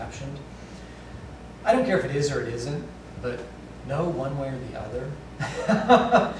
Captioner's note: laughter